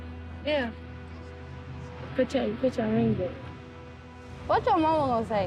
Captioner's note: indistinct conversation